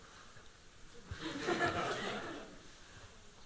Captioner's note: laughing